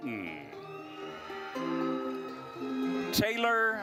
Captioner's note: attendees cheering